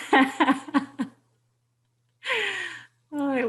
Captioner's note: laughs